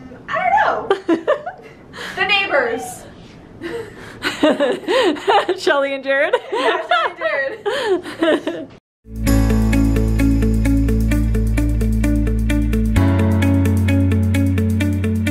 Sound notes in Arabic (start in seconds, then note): 6.6 يضحك; 8.1 كلاهما يضحك; 9.0 موسيقى مبهجة